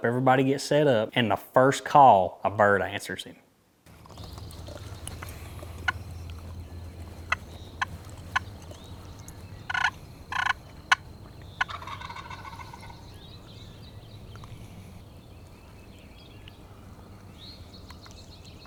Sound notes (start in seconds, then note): 7.4 turkey call; 12.7 turkey gobble